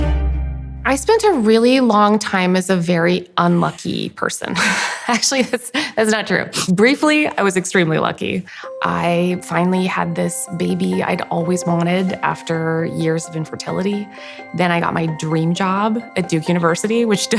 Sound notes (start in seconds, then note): 4.5 laughs